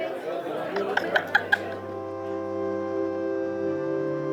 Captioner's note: laughs